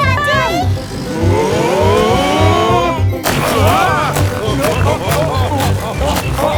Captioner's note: laughing